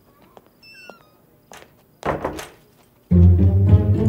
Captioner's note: Door closing